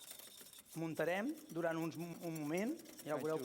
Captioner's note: non-english speech